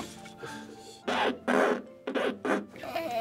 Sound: exhales in frustration; record scratching

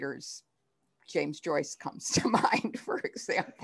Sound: laughter

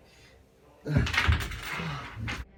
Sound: deep breathe

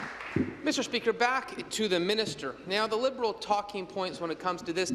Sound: applause

